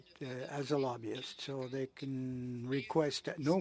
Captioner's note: speaking in French